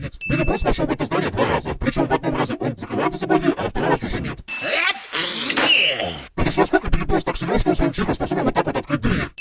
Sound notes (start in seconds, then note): 4.7 sneezes